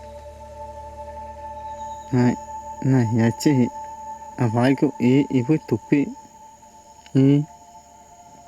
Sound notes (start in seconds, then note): 2.4 speaking in foreign language